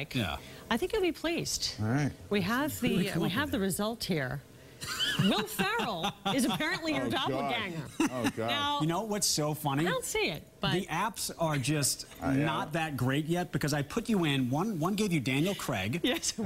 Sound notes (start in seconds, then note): 7.8 laughter